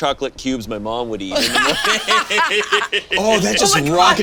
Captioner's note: all laugh